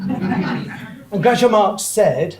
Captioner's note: audience laughs